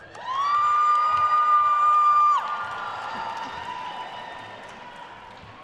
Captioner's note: attendees cheering and applauding